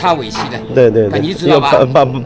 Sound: fenghua dialect in Wu dialect

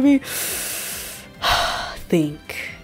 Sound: exhale; deep breath

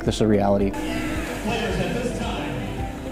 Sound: cheering

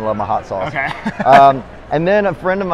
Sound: laughing

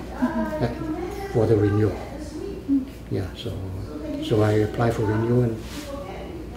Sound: Dr. Chan’s wife speaking in background

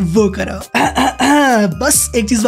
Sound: clearing throat

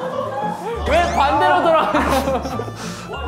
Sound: kekeke

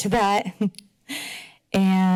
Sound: chuckles

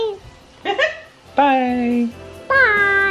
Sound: laughing

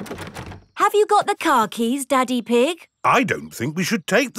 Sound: door rattles

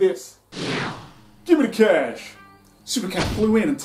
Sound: whoosh SFX

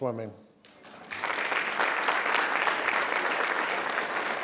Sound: crowd clapping

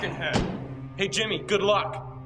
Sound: Jimmy thuds

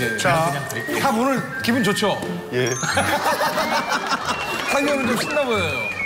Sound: laugh

